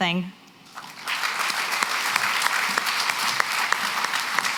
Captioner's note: applause